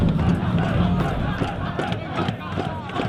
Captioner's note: people chanting